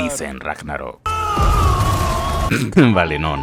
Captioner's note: screams loudly